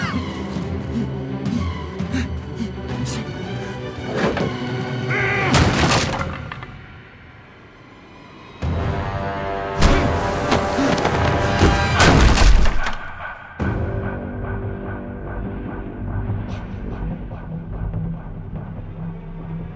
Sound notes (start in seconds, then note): 0.2 coughing, gasping; 5.5 grunting, smash; 12.0 smash